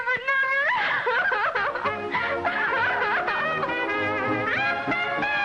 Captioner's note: sobs